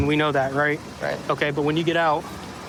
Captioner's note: none